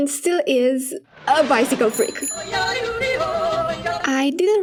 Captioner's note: bike bell; plane